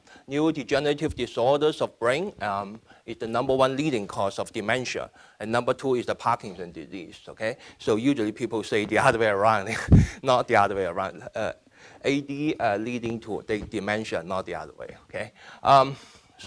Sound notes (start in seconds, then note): 9.8 laughing